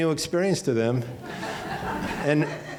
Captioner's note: laughing